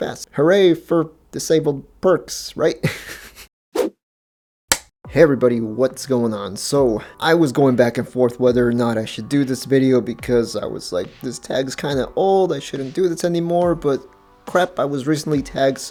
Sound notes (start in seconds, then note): 2.8 laughing; 3.5 whoosh, film clapper sound